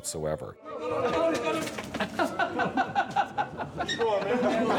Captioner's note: all Shouting, Laughing